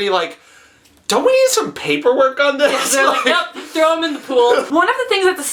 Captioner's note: laughs